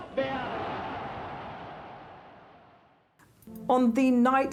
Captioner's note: crowd cheers